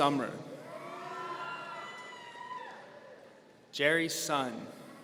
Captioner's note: audience cheering